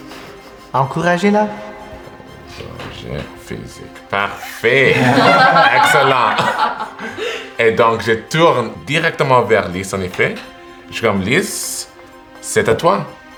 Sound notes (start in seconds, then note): 6.3 laughter